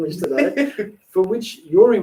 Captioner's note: laughing